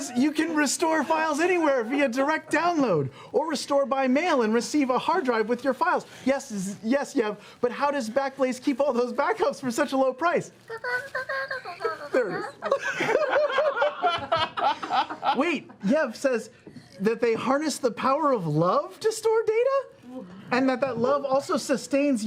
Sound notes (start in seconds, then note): 11.5 garbled speech imitation; 13.6 laughter